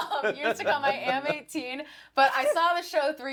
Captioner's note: laughs